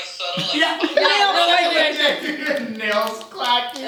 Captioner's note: tapping